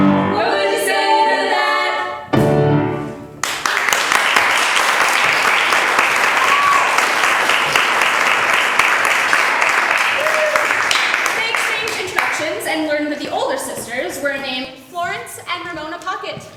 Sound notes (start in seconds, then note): 3.4 applause